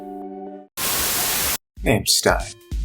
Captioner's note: Static